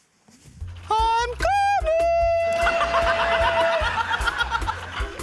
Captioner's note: laughs